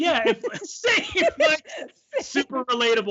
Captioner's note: laughing